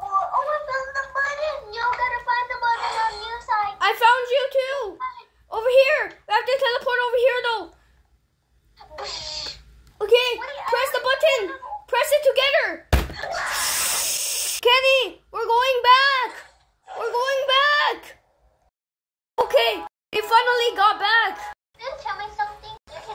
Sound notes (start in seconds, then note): 12.9 bang; 13.2 screams